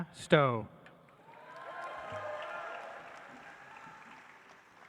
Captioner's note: audience applauds